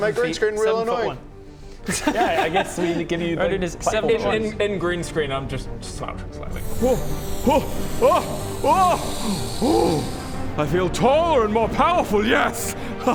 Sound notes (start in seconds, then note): 6.5 inflating noises